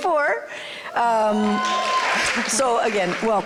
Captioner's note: applause